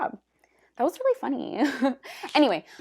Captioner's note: giggles tastelessly